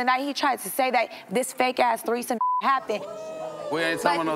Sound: beep

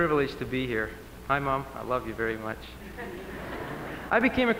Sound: 𝘤𝘰𝘯𝘨𝘳𝘦𝘨𝘢𝘵𝘪𝘰𝘯 𝘭𝘢𝘶𝘨𝘩𝘴

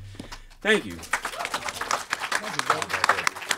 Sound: crowd clapping

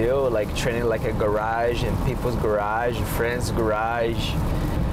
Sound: none

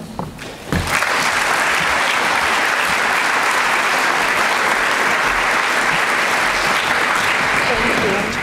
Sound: applause

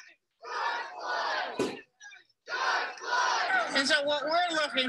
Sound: crowd

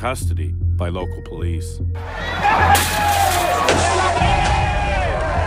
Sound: crowd shouting

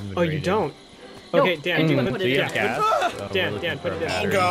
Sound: everyone talking

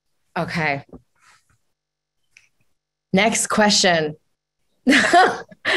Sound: chuckles softly

